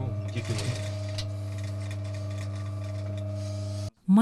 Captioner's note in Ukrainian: Швейна машинка працює